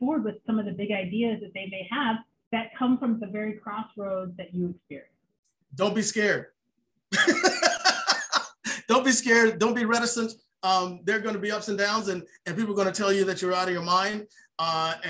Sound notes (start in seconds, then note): 7.1 laughs